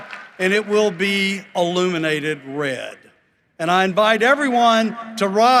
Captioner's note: cheering and applause